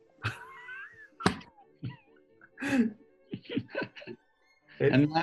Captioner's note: sniggering